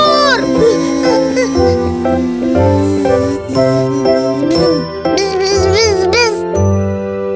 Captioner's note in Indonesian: suara lebah terbang